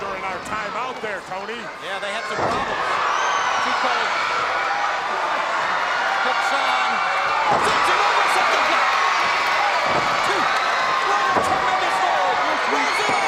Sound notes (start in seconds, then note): 4.2 crowd cheering; 7.1 presenter speaking faintly off mic